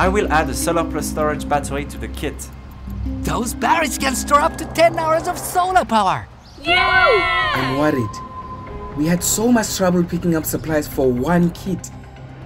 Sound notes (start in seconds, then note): 6.6 cheering